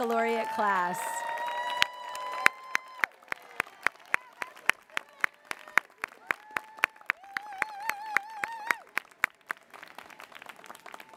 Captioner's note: applause